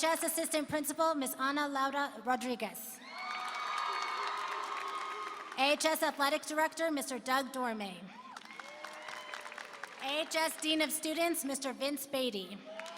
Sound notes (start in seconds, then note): 3.0 applause and cheering; 8.1 applause and cheering